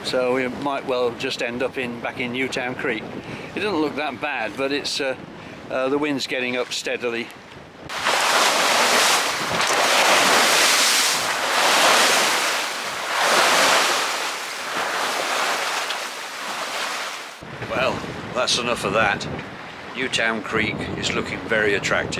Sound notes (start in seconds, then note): 7.8 sound of Waves